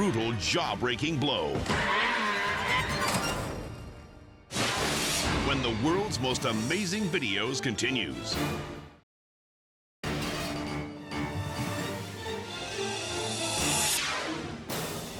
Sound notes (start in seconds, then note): 1.5 snowblower crashes; 2.9 dramatic air whoosh; 10.0 edgy dramatic music; 13.6 dramatic air whoosh